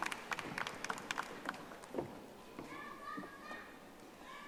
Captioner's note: audience applauding